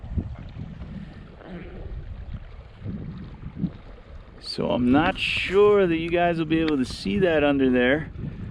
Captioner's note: water rushing